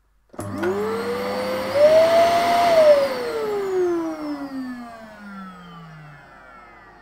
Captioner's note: hoover noise